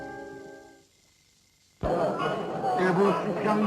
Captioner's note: indistinct chattering